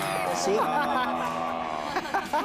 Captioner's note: laughter